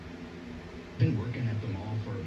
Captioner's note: on TV